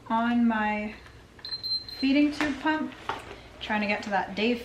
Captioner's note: machine beeping